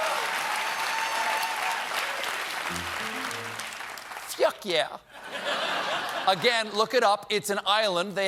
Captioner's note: cheers and applause